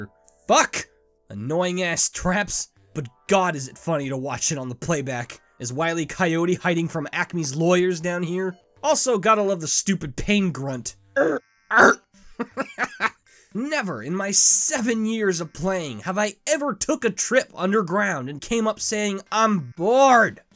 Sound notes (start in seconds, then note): 12.2 chuckles